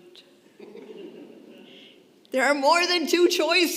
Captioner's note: congregation laughing